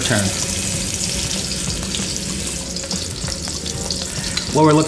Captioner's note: scallops searing